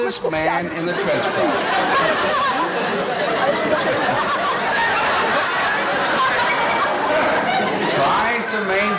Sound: laughs

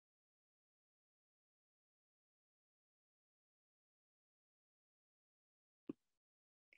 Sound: audio drops out

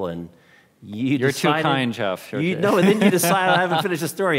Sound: laughing

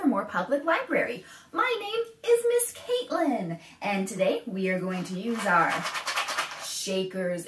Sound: shakes rattle

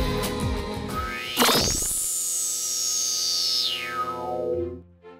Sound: sound Effects

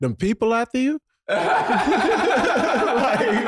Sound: brothers laughing

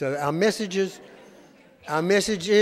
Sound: audience laughing

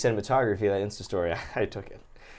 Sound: chuckles

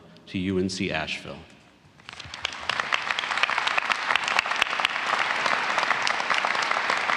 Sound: applause

